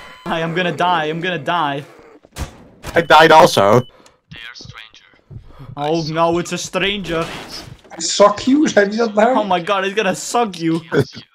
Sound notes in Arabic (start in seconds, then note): 0.0 يضحك; 2.8 انفجار